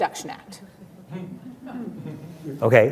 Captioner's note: laughter